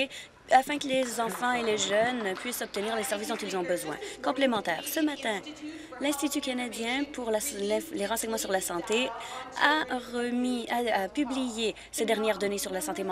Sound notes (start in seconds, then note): 3.7 applause